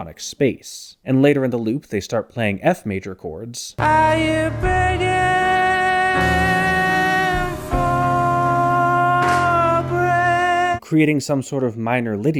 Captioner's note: bang